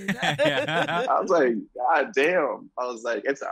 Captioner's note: laugh